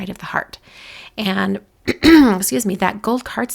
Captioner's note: throat clearing